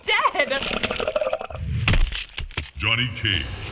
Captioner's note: in game: gurgling, then smack